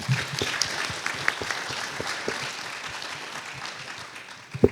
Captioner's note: applause